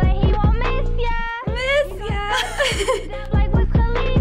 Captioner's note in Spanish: ambas ríen